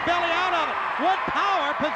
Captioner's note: audience cheers